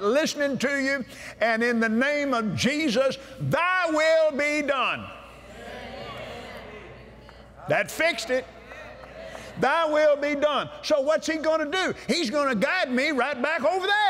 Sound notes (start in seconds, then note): 5.4 audience "Amens"